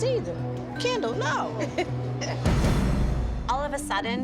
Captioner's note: laughs